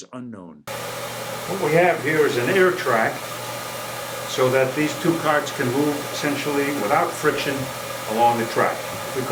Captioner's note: hiss of air